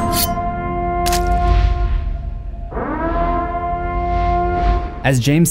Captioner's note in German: sirenen